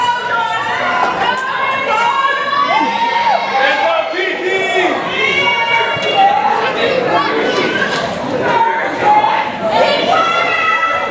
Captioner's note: background Discussion